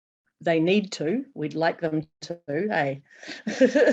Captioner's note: laughing